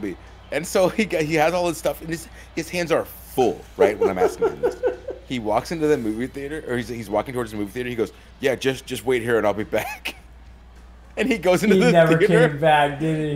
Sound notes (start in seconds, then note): 3.8 laugh